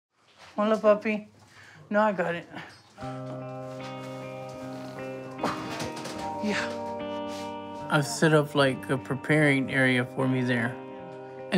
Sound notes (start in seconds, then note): 4.6 grunts